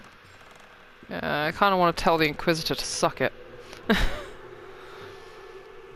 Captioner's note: laughs